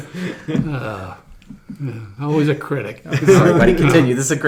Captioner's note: sigh